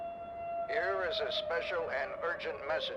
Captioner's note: radio Voice